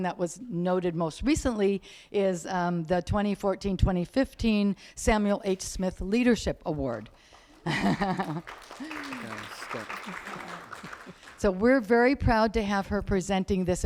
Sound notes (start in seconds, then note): 6.6 clapping